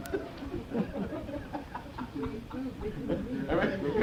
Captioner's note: laughter